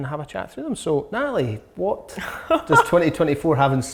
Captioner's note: laughing loudly